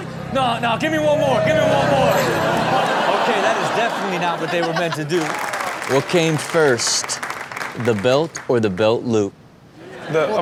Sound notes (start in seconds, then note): 2.2 audience laughs; 5.0 applause